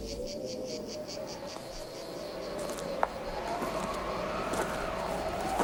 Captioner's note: whistling wind